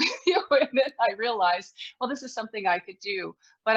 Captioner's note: laughs